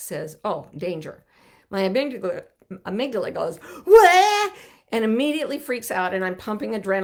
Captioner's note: shouts